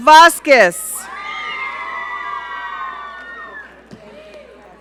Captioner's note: audience cheering